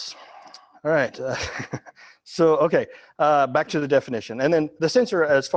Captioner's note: laughing